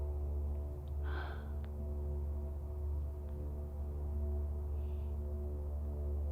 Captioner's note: dramatic music continues; Abby sighing